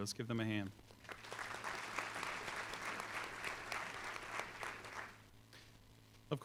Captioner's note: applause